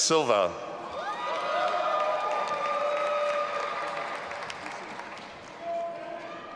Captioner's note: audience applauding and cheering